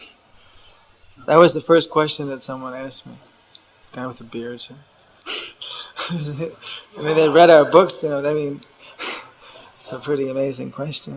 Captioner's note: laughs